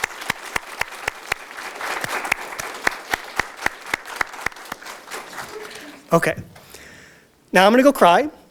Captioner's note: audience Applause